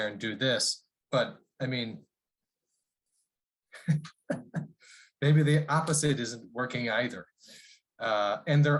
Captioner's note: laughter